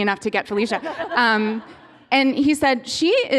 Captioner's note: laughter